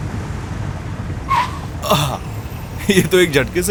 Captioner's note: tires squeak